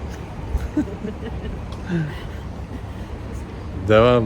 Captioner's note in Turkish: kahkaha